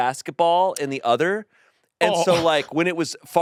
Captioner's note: laughs